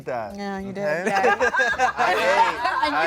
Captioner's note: everyone laughs